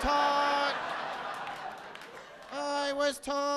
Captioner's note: audience laughing